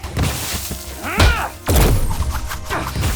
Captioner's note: Max growls; The Four agent grunts; Max grunts